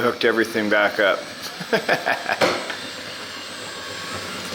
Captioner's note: laughs